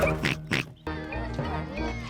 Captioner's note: oinks; laughs; children exclaiming playfully